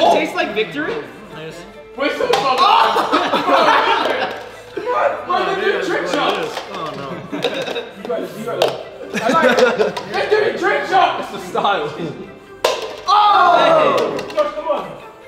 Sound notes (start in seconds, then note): 2.2 cups flipping; 2.2 group cheering; 5.8 cups flipping; 12.6 cups flipping